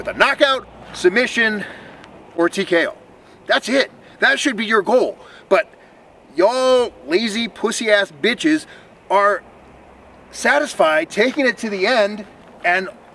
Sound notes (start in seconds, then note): none